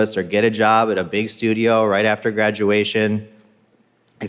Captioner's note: none